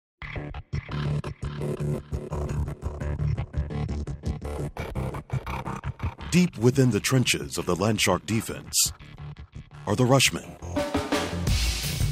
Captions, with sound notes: (electronic music) - [Voiceover] Deep within the trenches of the Land Shark defense, are the rushmen.